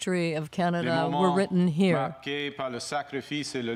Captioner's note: speaking French